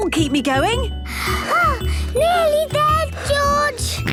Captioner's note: panting; snorts